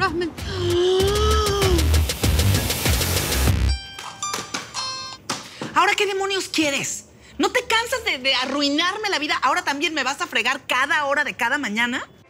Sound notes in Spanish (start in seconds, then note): 0.2 Grito ahogado; 3.6 Suena un celular